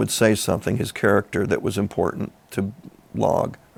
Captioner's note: none